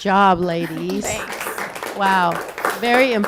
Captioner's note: audience applause